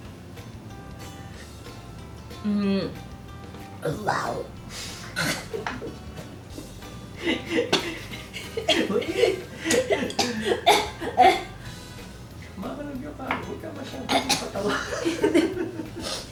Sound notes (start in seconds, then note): 4.7 coughs; 4.7 laughs